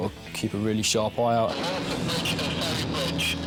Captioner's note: radio